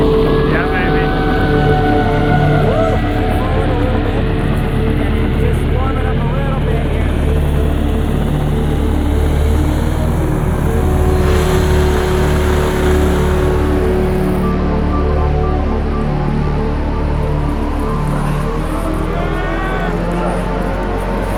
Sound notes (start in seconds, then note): 0.0 adventurers cheering; 10.1 motor revving